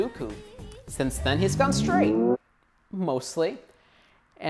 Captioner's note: rising reverb SFX